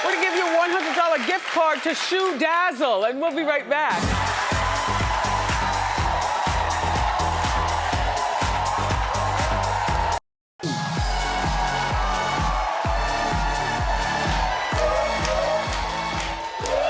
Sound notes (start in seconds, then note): 3.8 upbeat music; 5.9 audience cheering; 10.7 upbeat music; 12.7 audience cheering